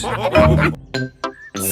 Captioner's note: all laughing